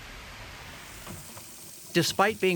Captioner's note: water swooshing